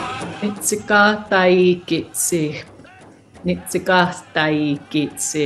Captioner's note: speaking non-english language